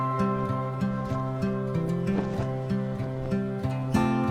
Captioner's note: flag rustling